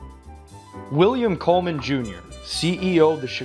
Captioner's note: voiceover